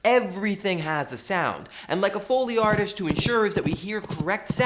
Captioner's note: horse hooves effects